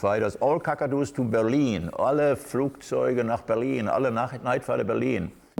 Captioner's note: speaking German